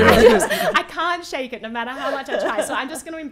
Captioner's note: laughing